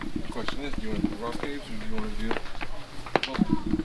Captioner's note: mummers